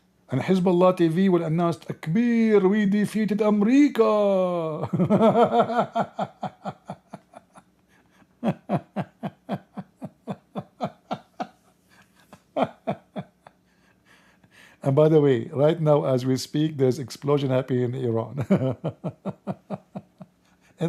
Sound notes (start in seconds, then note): 4.8 Ketawa